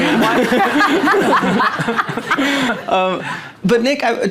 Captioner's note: audience laughing